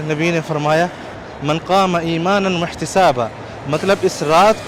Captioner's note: Arabic